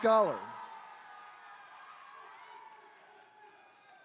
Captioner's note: attendees cheering